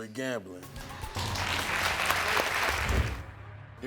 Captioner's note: audience applauds